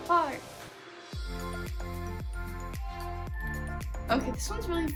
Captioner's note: also in Spanish